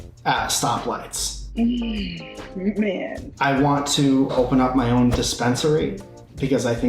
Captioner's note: sighs